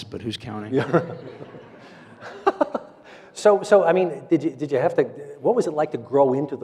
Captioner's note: audience laughs